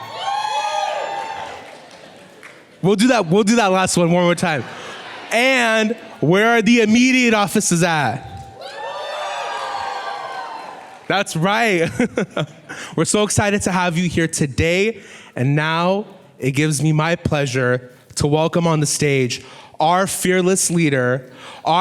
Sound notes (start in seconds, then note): 0.0 whooping and clapping; 8.3 whooping and clapping; 11.8 laughing